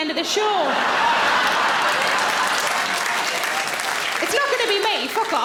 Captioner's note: audience laughing; audience applauds